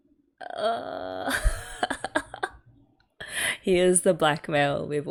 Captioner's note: laughs